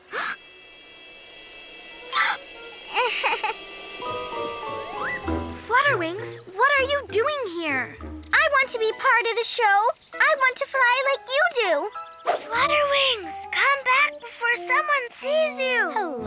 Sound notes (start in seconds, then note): 0.0 Flutterwings gasps; 2.3 Spot Splatter Splash gasps; 2.9 Flutterwings giggles